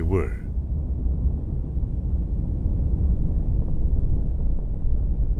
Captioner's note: rocket engine rumbles